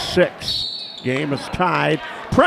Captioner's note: whistle blows